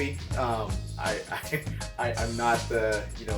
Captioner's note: giggling